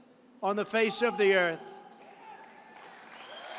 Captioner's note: applause